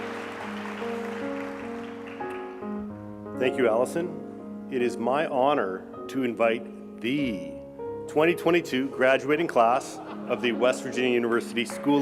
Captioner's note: applause